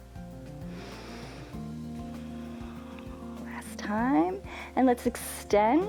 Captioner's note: inhales and exhales